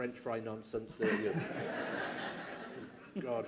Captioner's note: laughter